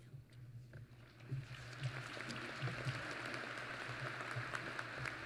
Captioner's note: applause